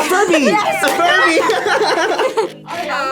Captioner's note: both laugh